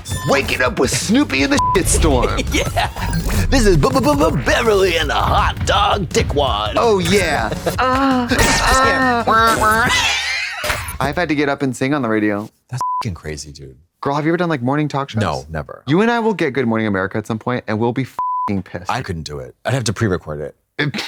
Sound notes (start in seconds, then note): 1.5 beep; 2.1 morning radio sounds; 7.9 Trixie moans; 9.2 morning radio digital noises; 12.8 beep; 18.2 beep